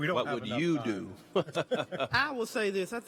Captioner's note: chuckling